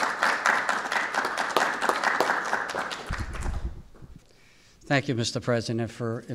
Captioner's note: applause